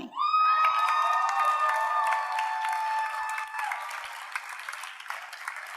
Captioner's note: audience cheers and applauds